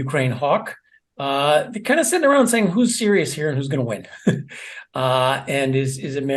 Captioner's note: laugh